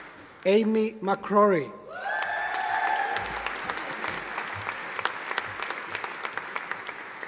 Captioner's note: audience applauding